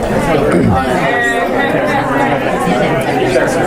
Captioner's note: students talking